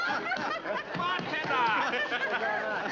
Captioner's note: excited chatter; pounding on bar